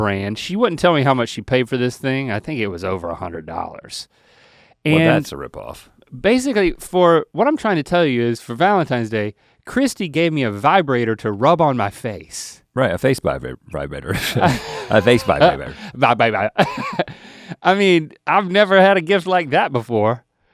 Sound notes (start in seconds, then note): 14.1 both laughing; 14.8 stutters; 17.0 laughs